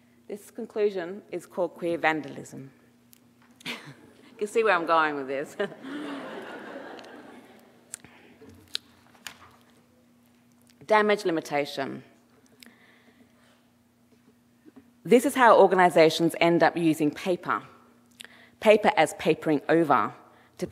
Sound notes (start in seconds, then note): 5.5 audience laughing; 5.5 chuckles